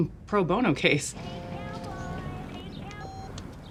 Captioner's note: phone ringing